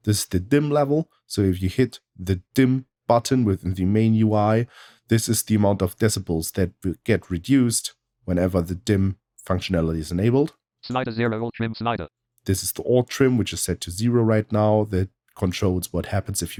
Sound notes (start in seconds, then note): 10.2 automated voice